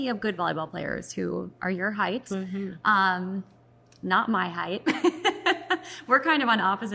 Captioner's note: laughs